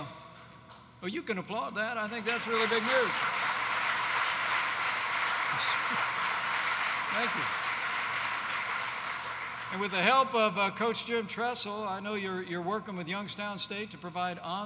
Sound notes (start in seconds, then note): 0.7 applause